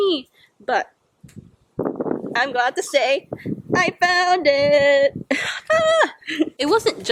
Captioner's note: normal voice